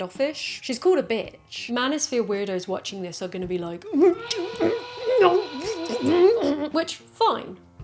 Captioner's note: angry noises